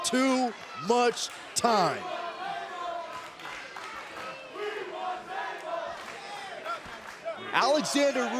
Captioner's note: crowd cheering